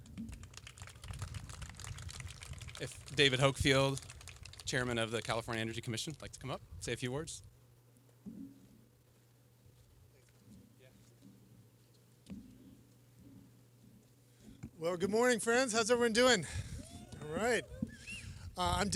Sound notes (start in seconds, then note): 0.0 applause; 16.8 cheering